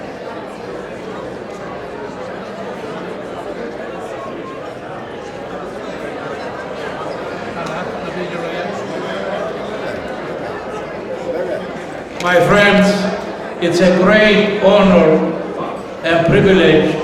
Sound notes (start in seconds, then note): 1.1 people chattering